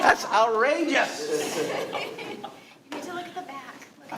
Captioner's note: all laughing